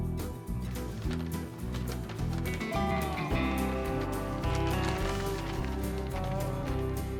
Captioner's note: paper crinkling